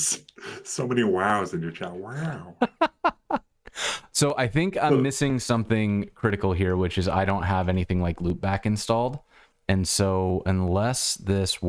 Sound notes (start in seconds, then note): 2.5 laughter